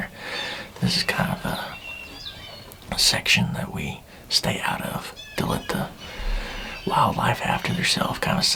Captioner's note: whispering